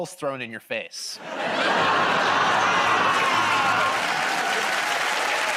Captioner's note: laughter, buzzing; cheers and applause